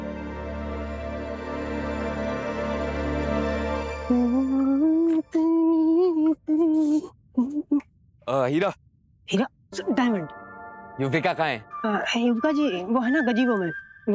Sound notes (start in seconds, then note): 4.0 humming a song